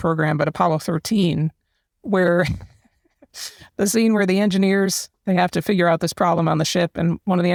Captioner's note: laugh